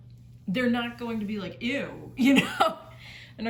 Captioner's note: laughs